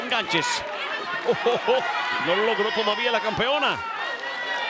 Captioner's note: laugh